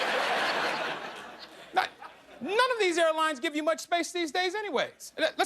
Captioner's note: laughter